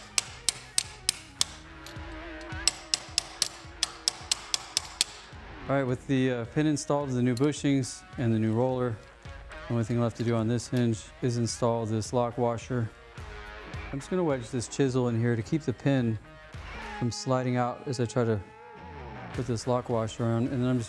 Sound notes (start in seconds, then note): 2.0 hammering